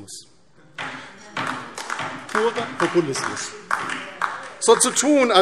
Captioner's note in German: Beifall DIE LINKE